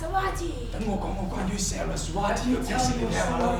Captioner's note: speaking in a foreign language